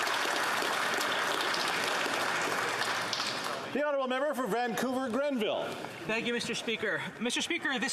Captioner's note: applause